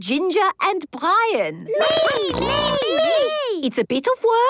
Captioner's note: snorting